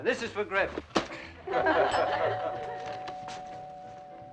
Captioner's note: laughing; doorbell Rings